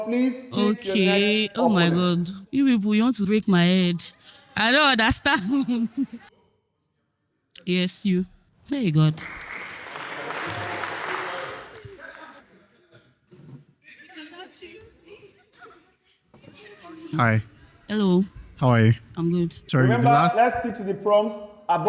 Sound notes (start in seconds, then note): 11.7 audience murmuring